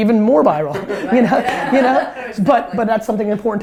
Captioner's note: group laughter